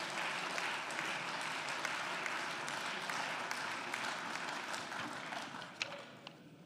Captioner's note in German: Beifall